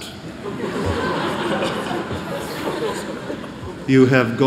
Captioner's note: laughter